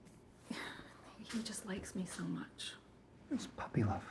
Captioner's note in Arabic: يتنهد